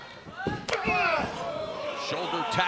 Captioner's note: wrestlers shouting